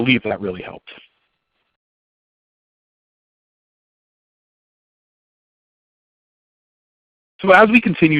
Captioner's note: silence